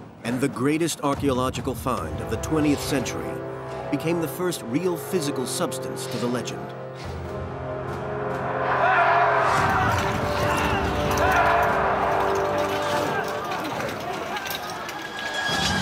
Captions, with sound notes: And the greatest archeological find of the 20th century became the first real physical substance to the legend. (soldiers yelling) (weapons clanking)